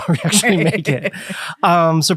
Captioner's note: both laughing